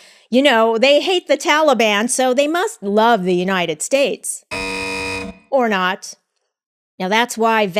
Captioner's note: buzzer